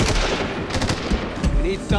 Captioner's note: gunshot